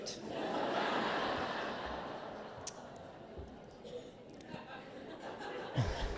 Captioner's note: laughter